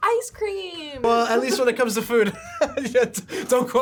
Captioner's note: laughs